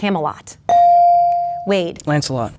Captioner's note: bell dings